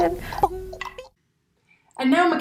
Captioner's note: gurgling sound